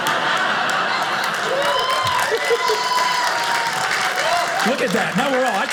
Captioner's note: audience cheers